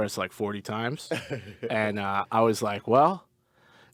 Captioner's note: laughs